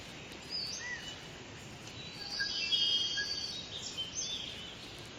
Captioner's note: birds cawing and chirping